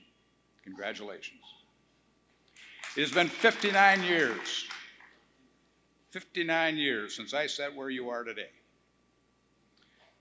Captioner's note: applause